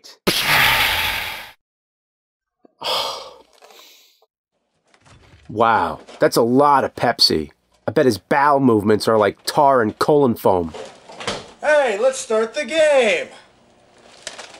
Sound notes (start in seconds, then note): 0.3 pshaaa!; 2.7 scoffs